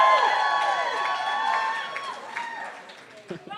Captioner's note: cheering